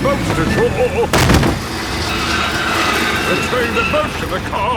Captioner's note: thud